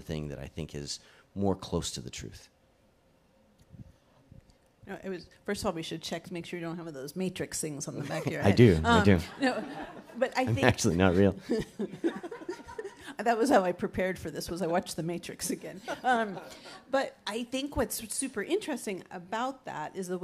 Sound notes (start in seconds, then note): 9.0 audience laughs; 10.8 chuckles